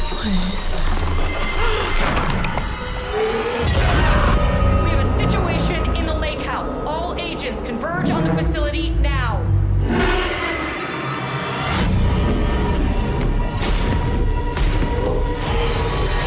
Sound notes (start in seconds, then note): 1.5 gasps; 3.1 inhuman scream; 11.6 horror music playing